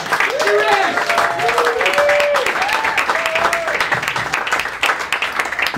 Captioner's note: claps